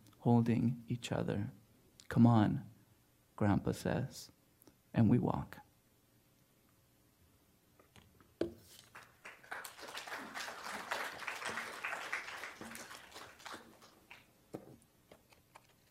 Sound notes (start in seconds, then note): 8.8 applause